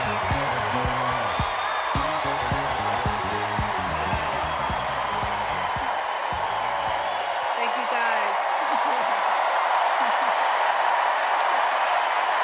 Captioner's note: cheers and applause